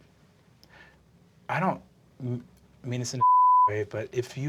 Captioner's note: beeping